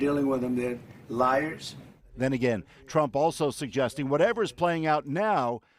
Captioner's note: none